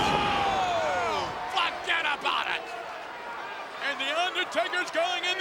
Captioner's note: body thudding